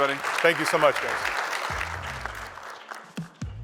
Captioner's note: applause